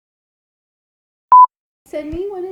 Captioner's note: beep